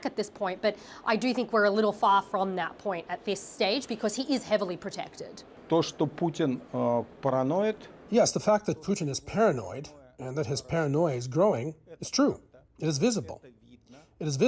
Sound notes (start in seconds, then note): 7.4 speaking Alternate Language